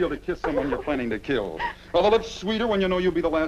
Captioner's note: Doris sobs